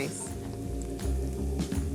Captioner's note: cooking oil sizzling